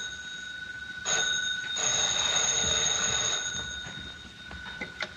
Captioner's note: phone rings